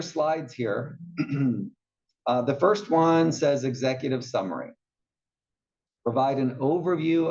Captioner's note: cough